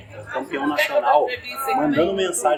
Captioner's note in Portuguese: barulho da plateia se dispersando ao fundo